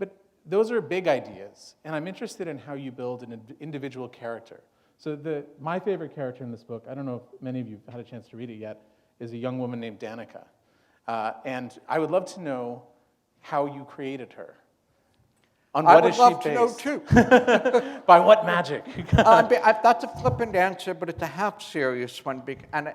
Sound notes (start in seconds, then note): 17.0 laughter; 18.8 chuckle